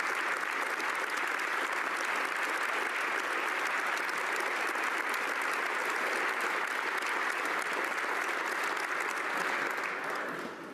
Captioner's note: applause